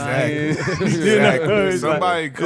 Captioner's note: laughing